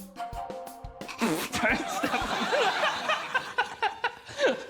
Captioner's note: laughs